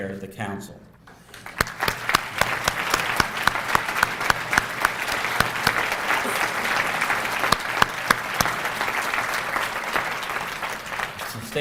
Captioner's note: applause